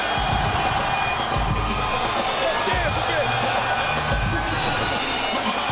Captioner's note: graphics whooshing